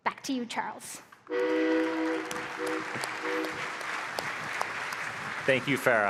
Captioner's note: applause